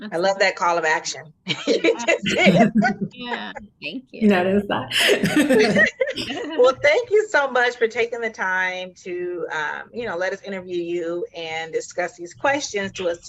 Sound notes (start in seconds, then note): 1.5 laughing; 4.9 all laughing